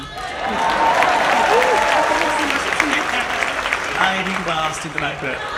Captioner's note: audience applauds and cheers